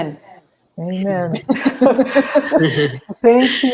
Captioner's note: laughter